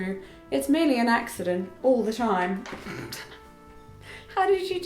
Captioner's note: chuckles